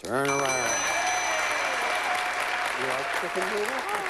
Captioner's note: cheering